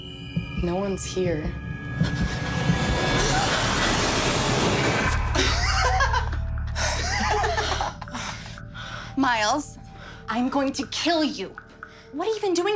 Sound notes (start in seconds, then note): 2.7 gasps; 4.7 laughs